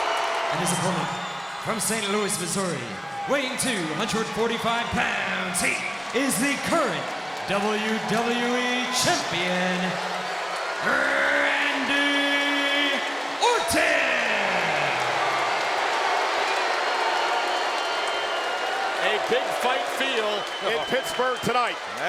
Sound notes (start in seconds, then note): 14.3 crowd booing